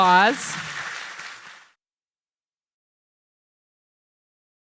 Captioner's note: audience applauds